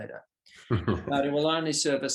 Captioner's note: laughs softly